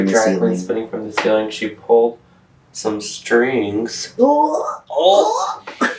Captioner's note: laughter